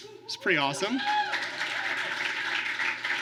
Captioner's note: applause